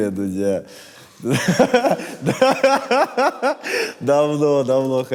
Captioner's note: laughs heartily